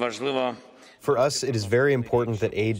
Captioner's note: through translator